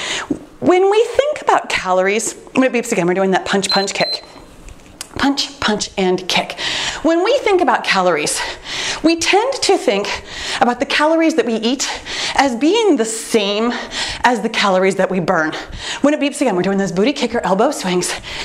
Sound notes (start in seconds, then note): 3.6 timer beeps